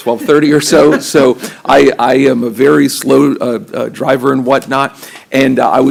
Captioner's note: laughter